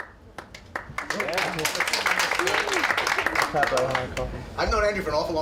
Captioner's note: clapping